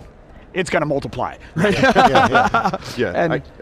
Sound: laughs

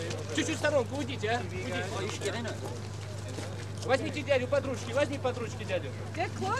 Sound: non-english speech

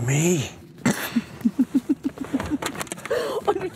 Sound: laughs

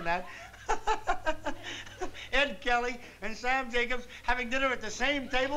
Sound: laughs

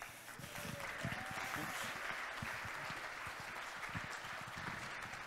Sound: audience clapping and cheering

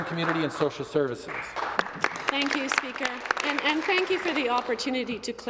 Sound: applause

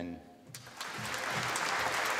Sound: applause

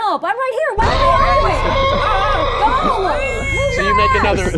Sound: yelling

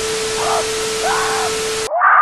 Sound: screaming for help

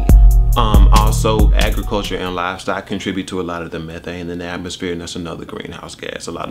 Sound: regular voice

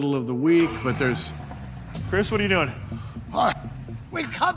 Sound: car engine starting

